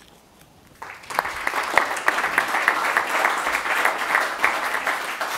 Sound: audience applauding

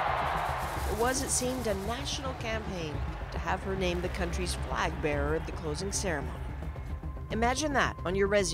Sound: cheers and applause

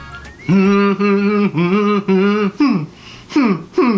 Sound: humming

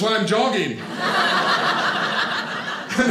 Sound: audience laughing

